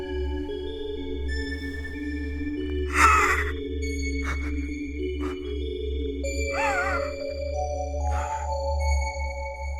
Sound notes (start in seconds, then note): 3.6 Heather sobbing